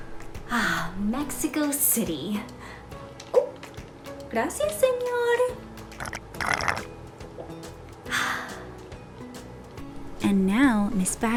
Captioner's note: sips